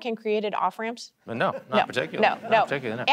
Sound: audience laughing

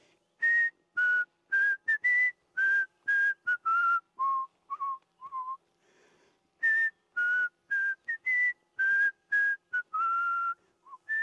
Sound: whistles

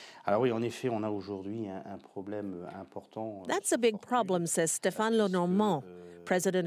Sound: speaking French

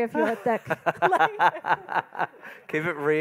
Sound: laughing

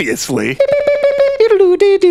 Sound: humming

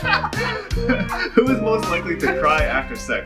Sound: laughing

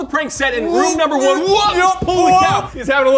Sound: struggling

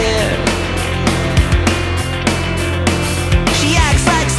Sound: pitched delay sounds

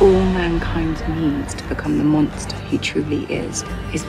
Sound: woman's Voice

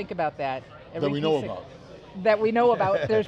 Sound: chuckles

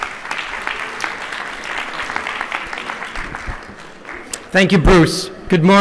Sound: applause

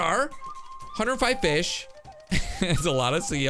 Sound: laughs

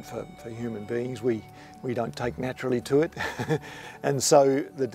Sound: chuckles

